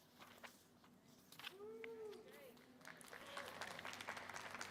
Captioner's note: audience applauding